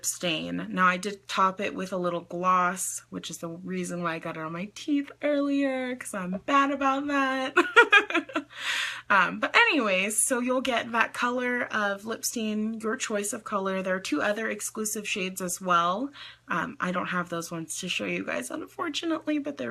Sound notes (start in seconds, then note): 7.5 laughs